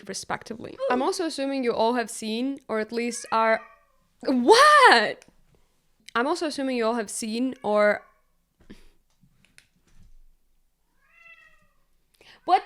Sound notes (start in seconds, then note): 4.4 Count Vasiliy meows